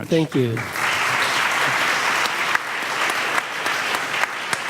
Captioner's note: audience applauds